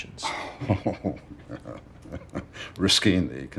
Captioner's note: soft chuckling